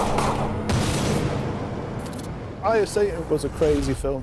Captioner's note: eerie music; gun blasts